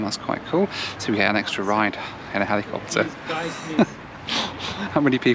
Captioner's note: laughs